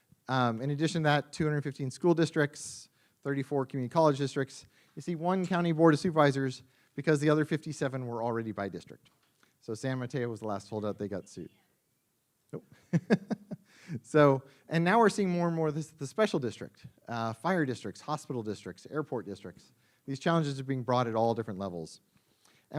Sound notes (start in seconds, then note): 12.7 laughs